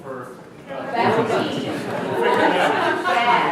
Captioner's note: laughing